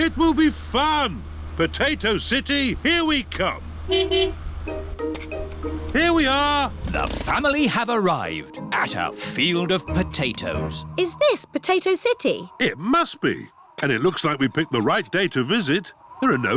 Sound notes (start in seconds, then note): 3.8 honks horn